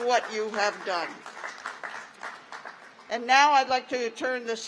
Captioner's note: applause